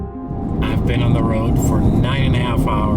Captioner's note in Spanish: none